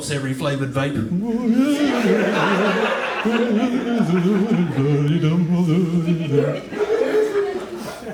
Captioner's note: happy Dumbledore sounds